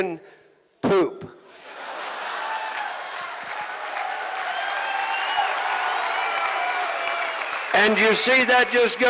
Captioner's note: audience Laughing and Clapping